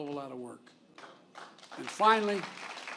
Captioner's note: applause